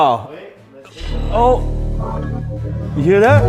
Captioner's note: gauntlet hums